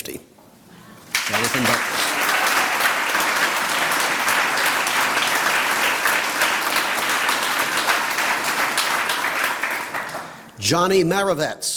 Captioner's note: applause